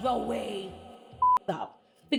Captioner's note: beep